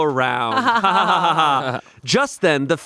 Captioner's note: all laughing